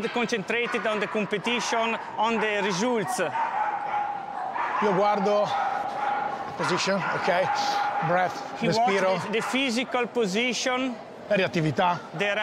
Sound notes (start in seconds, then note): 4.9 speaking in mixed Italian and English; 11.5 speaks in Italian